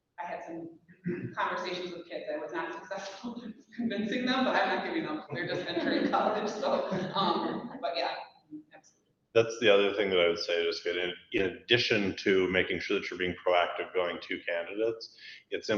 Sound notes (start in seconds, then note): 5.2 people laughing